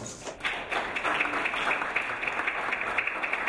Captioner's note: clapping